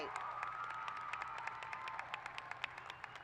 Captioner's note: applause